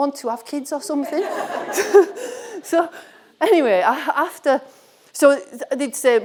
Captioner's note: audience laughing